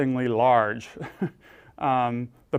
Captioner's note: laugh